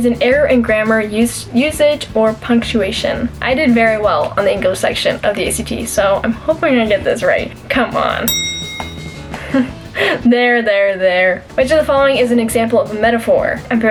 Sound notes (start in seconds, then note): 8.2 bell ring